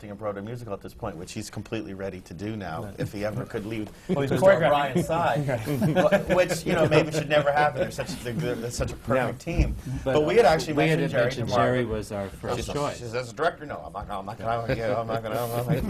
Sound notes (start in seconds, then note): 6.6 laughter from the panel